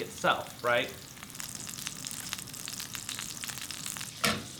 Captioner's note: steak sizzling